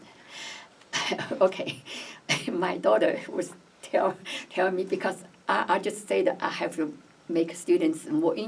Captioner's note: laughs